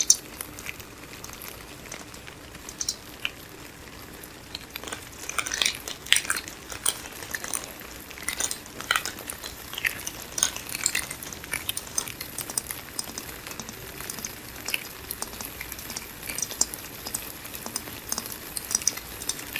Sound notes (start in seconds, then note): 4.9 crinkling